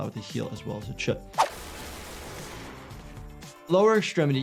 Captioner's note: gunshot fires